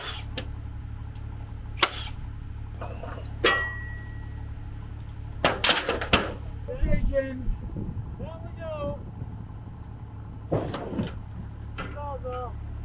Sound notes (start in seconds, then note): 0.1 tool buzzes; 3.6 metal clunking